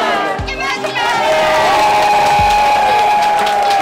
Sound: cheering and applause

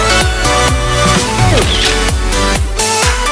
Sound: camera shutter; techno music

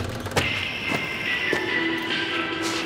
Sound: footsteps

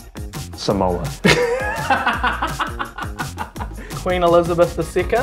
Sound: laughs

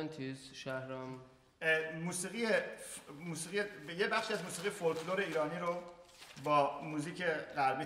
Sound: speaking in farsi

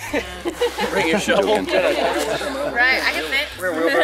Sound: laughter

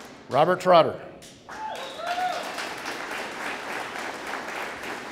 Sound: audience applauding

